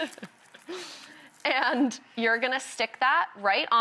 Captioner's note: chuckles